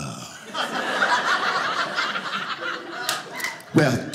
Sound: audience laughing

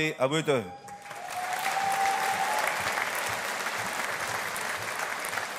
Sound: audience applauding

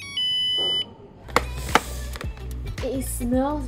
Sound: sniff

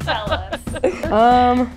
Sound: laughs

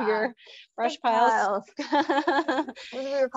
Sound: laughs

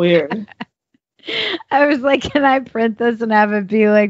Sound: laughs

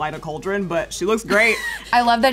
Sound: laughing

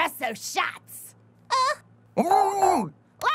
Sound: Concerned Ruby Noise #2

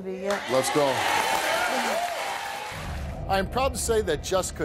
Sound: audience claps

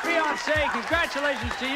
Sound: audience applauding

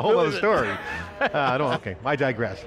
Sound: laughing

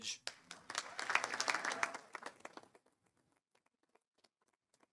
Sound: audience applauding

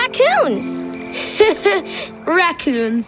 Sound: laughing

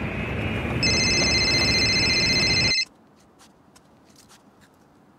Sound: beeping ring

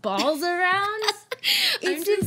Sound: women laugh

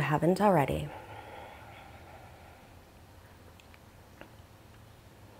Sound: exhaling deeply

